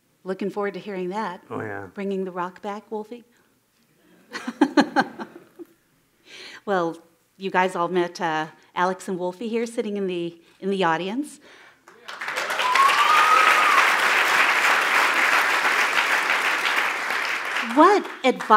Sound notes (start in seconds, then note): 1.4 laughs; 9.2 cheers and applause